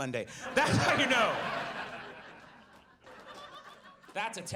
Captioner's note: audience laughs